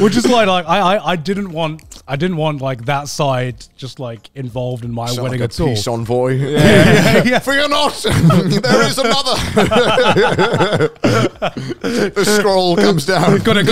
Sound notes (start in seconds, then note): 9.7 all laughing